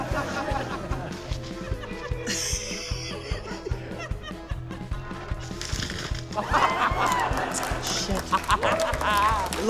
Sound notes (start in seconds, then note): 2.2 laughs; 6.3 laughter